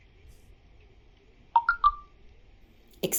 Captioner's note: message alert tone